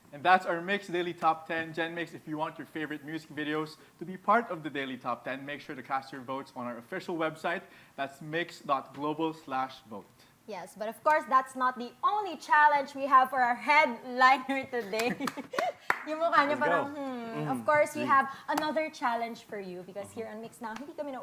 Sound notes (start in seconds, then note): 14.8 chuckles